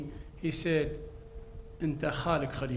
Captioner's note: speaks in foreign language